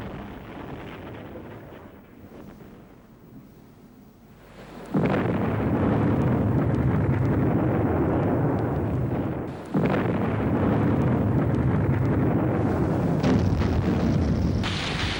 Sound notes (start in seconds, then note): 0.2 explosion